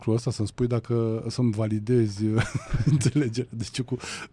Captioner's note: laughter